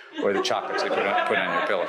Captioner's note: audience laughs